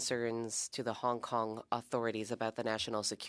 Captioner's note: speaking French